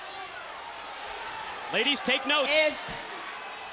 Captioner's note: crowd cheering